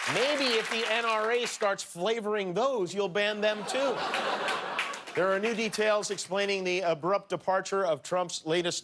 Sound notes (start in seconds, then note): 1.8 cheers and applause